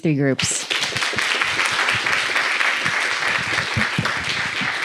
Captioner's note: applause